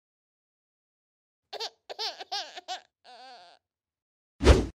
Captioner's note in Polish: płacz dziecka